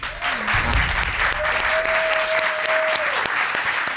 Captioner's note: audience applauding